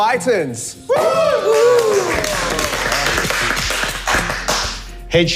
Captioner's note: everyone cheering